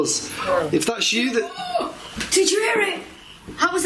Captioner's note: gasping